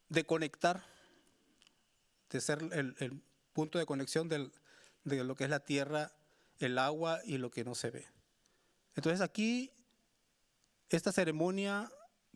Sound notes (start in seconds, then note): 7.4 speaking Spanish continues